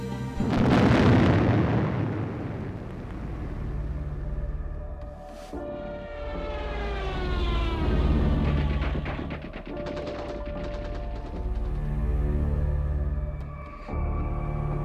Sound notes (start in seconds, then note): 0.5 cannon shot; 9.6 gunshots